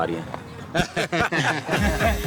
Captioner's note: laughing